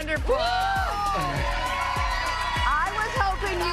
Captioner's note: cheers, applause